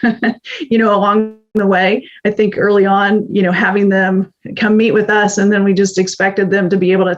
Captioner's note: laughs